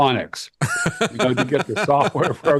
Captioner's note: laughing